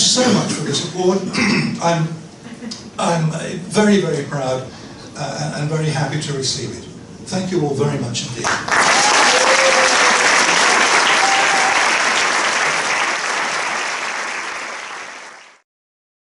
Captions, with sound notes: But thank you so much for the support. I am very, very proud and very happy to receive it. Thank you all very much indeed. [APPLAUSE]